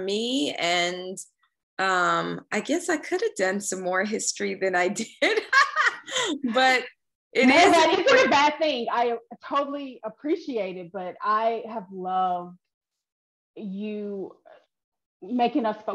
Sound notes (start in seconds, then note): 5.5 laughing